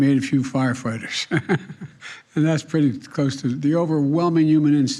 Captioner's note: laughs